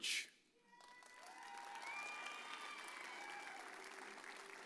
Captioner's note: audience cheers